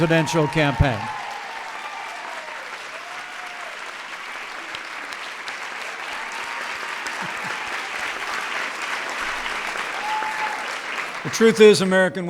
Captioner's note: applause